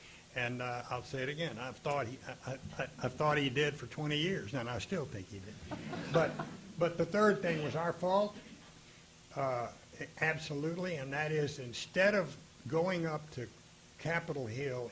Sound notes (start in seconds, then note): 5.6 audience laughing